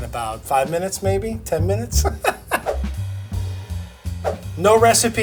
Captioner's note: laughing